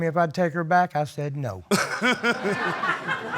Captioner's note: laughs; audience laughs